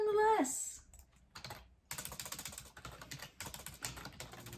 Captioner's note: keyboard clicking